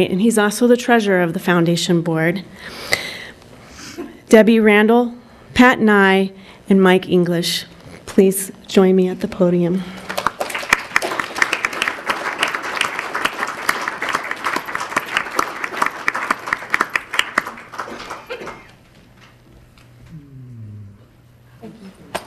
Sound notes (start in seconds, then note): 10.0 crowd applauding